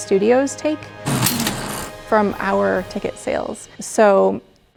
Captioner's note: ticket whirring